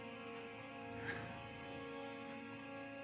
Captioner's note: laughs